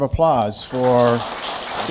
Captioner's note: applause